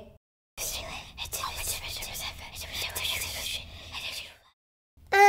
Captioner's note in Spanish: Susurrando